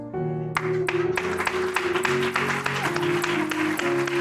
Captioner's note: applause